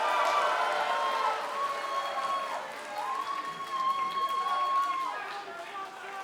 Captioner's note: cheers and applause